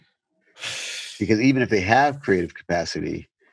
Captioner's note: sighs